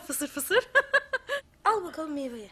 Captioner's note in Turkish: Gülme sesi